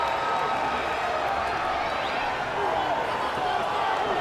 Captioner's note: crowd chattering